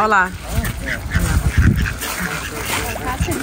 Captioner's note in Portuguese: som de patos